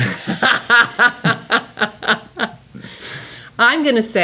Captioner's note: laughing